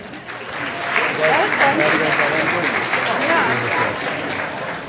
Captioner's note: audience applauding